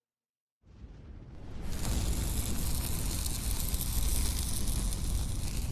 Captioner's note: flame whooshes, sparks crackle